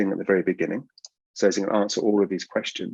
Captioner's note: mouse clicks